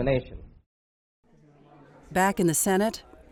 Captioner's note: office Sounds